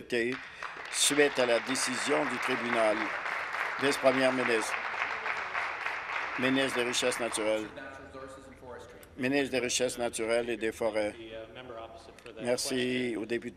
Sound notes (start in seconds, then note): 3.6 applause